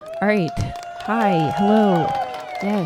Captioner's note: audience cheers